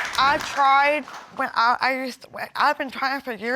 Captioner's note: stuttering